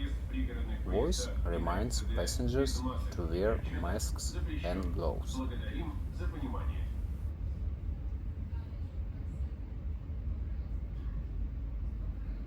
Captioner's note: voice reminds passengers to wear masks and gloves